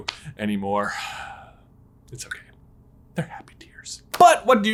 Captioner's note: sighs